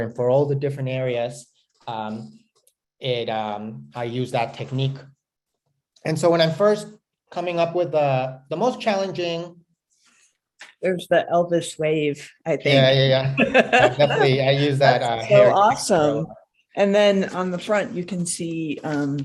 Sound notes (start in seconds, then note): 13.3 laughing